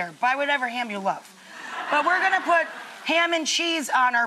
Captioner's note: laughing